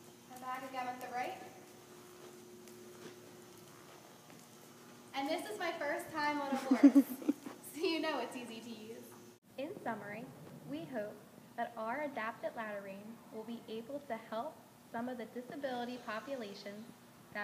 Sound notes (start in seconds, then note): 2.4 horse walking; 6.5 laughter in backgroud